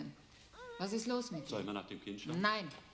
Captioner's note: speaking german